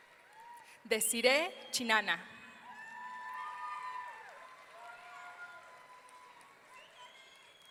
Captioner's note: audience cheering